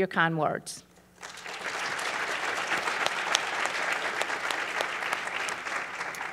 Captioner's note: applause